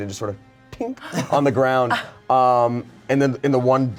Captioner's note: gasps